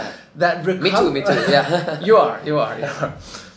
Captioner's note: laughs